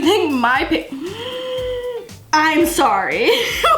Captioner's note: breath gasping; laughs